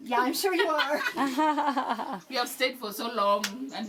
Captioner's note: laughing